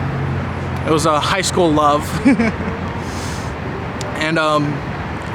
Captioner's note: laughs